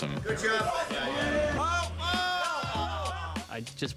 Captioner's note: laughs